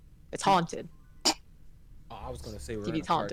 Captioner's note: snorts